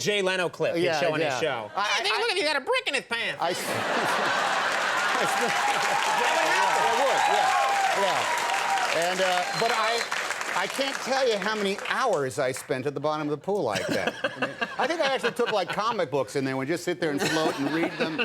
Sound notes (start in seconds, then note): 3.4 audience laughing; 5.4 applauding